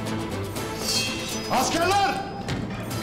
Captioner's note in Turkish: Kılıç çekme sesi